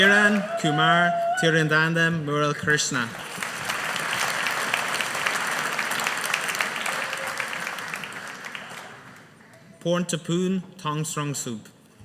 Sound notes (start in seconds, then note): 2.6 audience applauding